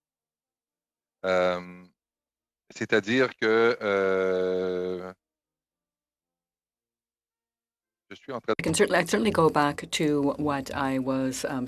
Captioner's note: speaking French